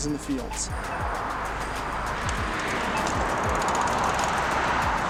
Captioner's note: car driving